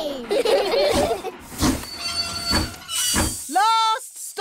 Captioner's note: train chugs; laugh